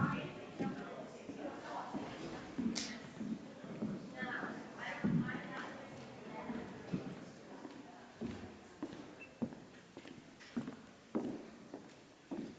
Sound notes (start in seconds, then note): 3.6 people chattering distantly continues